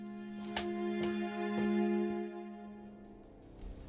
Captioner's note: washcloth drops to ground; tense music